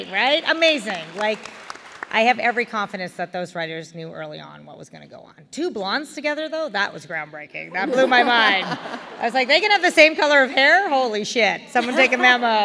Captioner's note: laughter